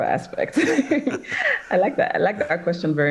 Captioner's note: laughs